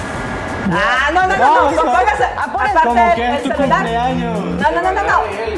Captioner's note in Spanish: laughs